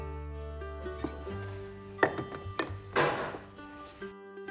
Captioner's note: glass jars clink